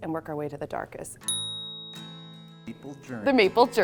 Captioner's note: chime